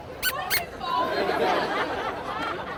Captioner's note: toy squeaking; audience laughing